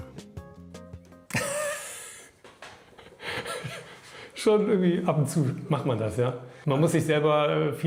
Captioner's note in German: Lacht